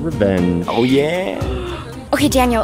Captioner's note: gasps